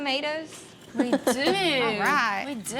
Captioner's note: chuckling